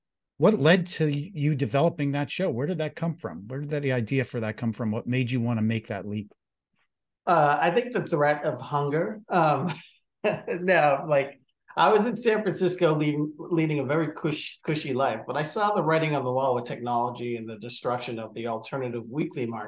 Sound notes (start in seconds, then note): 9.4 laughs